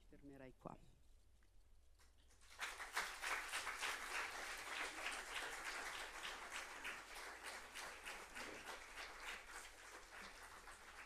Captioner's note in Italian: Applauso